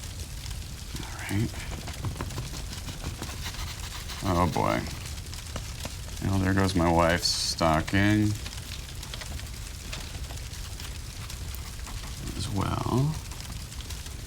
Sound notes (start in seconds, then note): 7.9 crackling continues